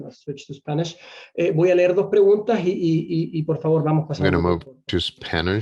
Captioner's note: speaking in foreign language